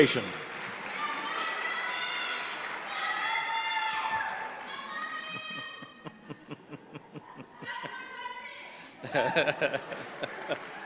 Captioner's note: applause